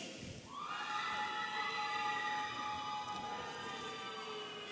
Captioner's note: audience cheering